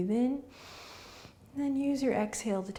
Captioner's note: inhaling